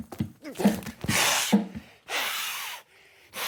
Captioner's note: hissing